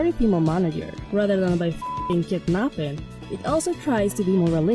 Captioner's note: beep